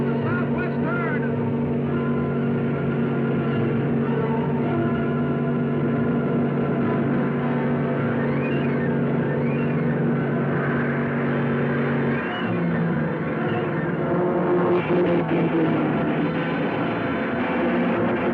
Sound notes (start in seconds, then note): 2.6 cars revving; 2.6 thrilling music